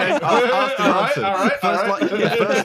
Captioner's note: laughs